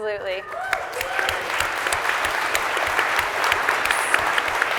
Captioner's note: audience applauding